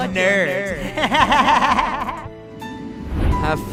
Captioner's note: laugh